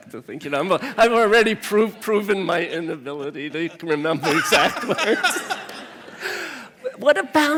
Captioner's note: laughter